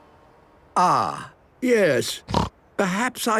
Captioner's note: snorting